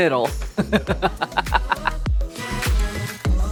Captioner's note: laughing; upbeat music